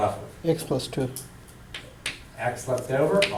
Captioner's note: voiceover